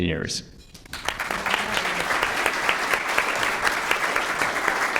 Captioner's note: applause